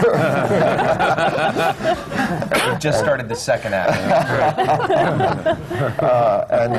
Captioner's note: laughter